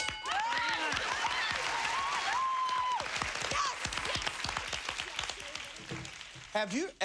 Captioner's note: cheers and applause